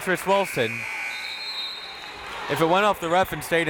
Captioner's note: whistle tweeting; buzzer ringing